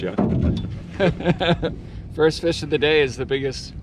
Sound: laughs

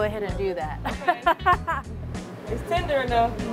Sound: laughs

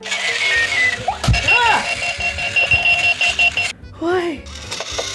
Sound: device whirring and beeping; device whirring and beeping

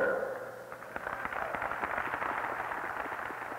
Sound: applause

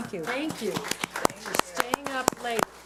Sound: audience applauds

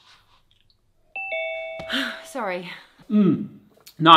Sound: notification ping

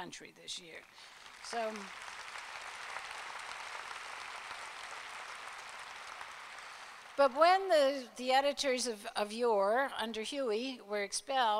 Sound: applause

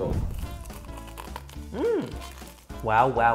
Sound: crunching

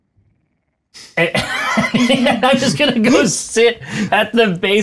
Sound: laughing

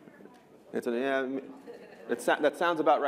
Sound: laughter

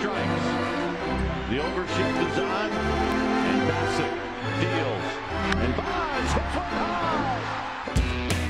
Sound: old fashioned radio announcer

